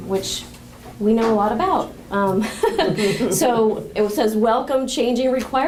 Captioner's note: laughter